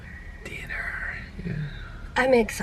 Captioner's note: whispers